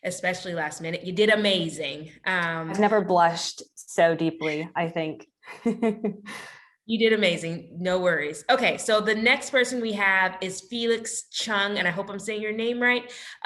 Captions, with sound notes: especially last minute. You did amazing. I've never blushed so deeply, I think. (laughs) You did amazing. No worries. Okay, the next person we have is Felix Cheung-- I hope I'm saying your name right--